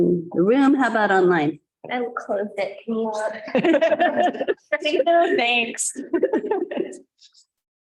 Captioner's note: many voices